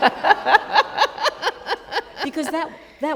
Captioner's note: laughter